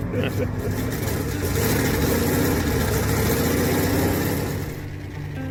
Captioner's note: car engine revving